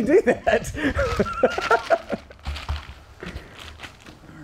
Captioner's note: Josh laughing